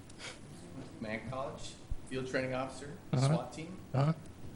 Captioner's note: murmurs